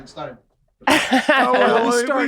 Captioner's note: laughs